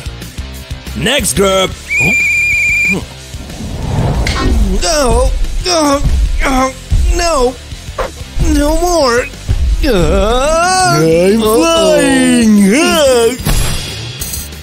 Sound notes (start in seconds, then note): 3.4 screaming and grunting